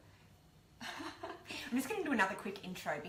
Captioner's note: chuckles